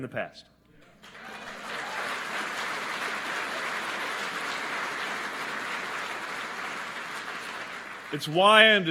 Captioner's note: applause